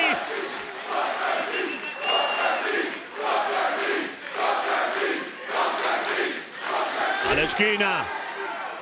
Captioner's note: applause